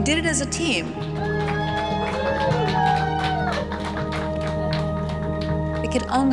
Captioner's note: cheers and applause